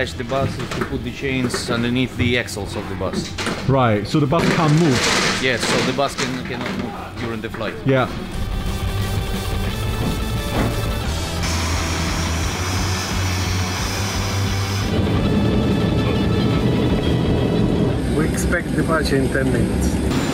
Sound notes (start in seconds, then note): 8.7 upbeat music; 15.1 plane engine roaring